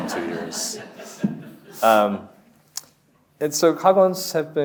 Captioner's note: audience laughs